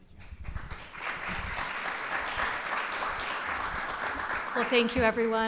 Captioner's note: applause